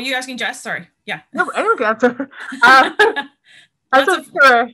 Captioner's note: laughter